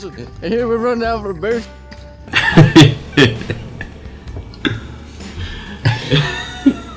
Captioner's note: laughter